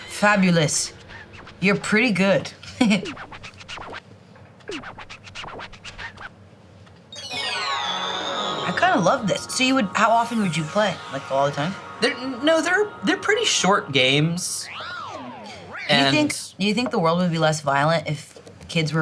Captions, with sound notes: - Fabulous. You're pretty good. (record scratching) (upbeat goofy music) I kind of love this. So you would, how often would you play? Like, all the time? - No, they're pretty short games. - You think the world would be less violent if kids